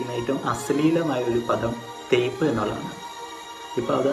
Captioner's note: in malayalam